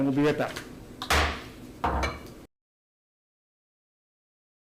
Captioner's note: gavel banging